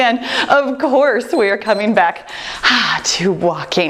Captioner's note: timer beeps